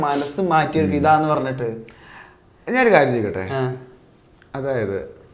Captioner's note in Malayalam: ചീറ്റുന്നു